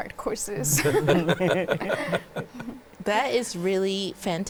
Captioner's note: laughing